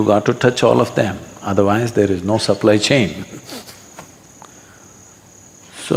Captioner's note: laughs